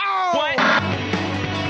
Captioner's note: television static